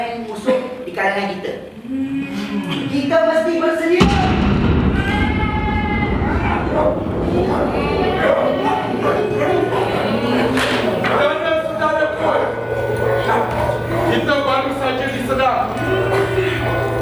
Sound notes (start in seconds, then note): 4.0 distant explosion; 7.4 dogs barking